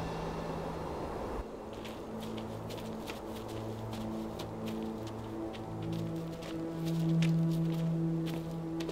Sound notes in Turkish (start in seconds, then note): 0.0 Müzik - Gerilim; 1.6 Ayak sesleri